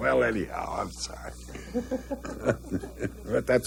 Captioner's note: chuckling